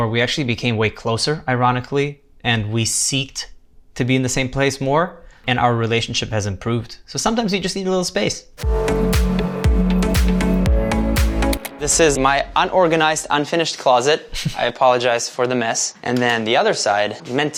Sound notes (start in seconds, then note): 8.6 upbeat music; 11.6 button clicking